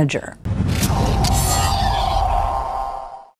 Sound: whooshing

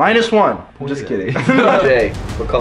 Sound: laughter

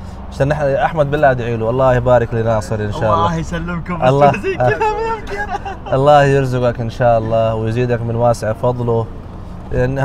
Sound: Arabic

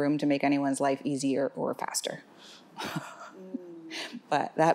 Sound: chuckles

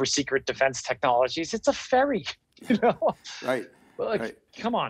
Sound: laughs

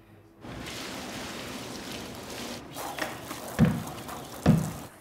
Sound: water splashing

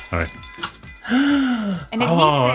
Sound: glass shuttering

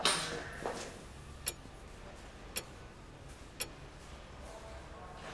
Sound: clock ticking

